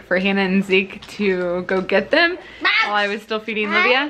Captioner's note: child babbles